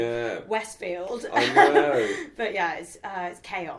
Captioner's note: laughs